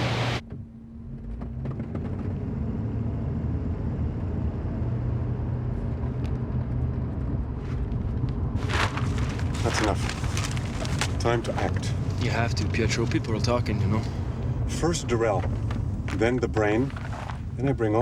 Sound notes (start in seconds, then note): 2.3 car engine humming